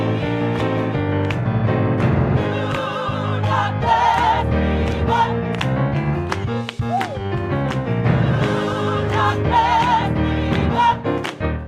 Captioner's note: clapping